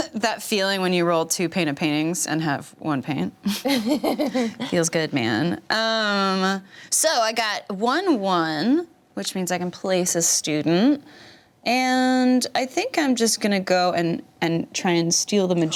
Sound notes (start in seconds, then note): 3.5 chuckles